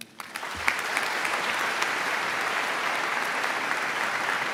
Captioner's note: audience claps